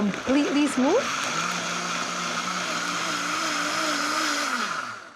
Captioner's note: blender whirs